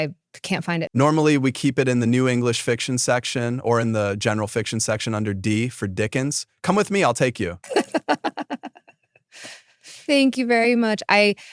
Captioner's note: laughing